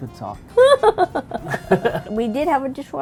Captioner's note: laughing